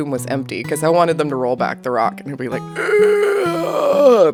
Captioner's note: groan